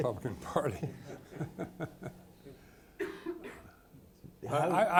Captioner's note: people laughing